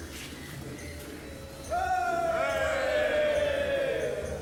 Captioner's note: all cheering